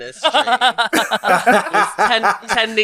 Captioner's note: laughs